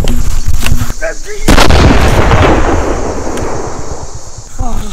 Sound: grenade explodes

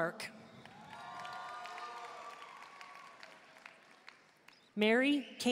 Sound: audience cheering and applauding

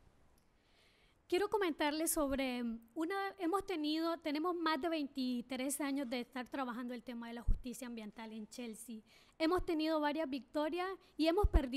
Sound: speaking spanish

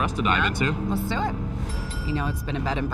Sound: bell dinging

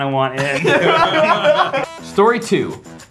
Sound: everyone laughs

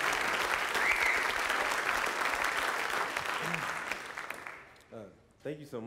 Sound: applause

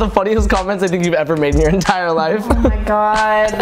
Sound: laughs

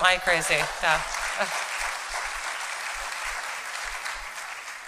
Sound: applause

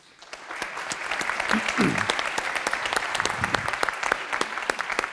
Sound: applause

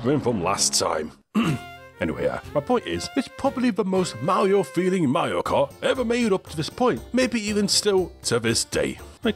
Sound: ahem

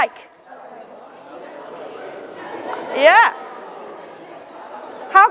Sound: audience chattering

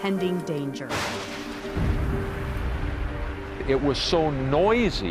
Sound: thunder crashes

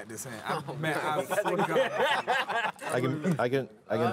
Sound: laughing

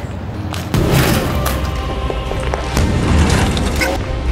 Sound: crowbar banging

